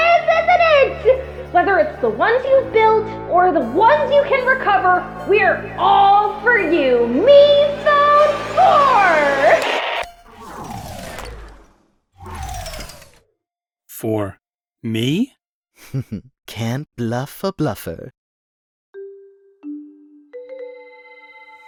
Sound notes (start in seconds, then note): 9.5 BZzzt; 19.0 calming music